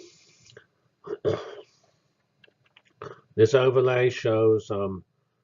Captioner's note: cough